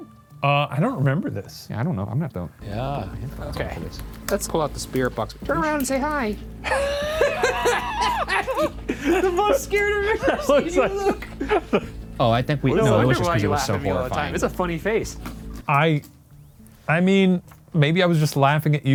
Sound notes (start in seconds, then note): 6.6 both laugh